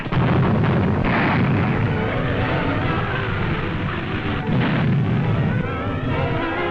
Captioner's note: sounds of guns, blasting, explosions going off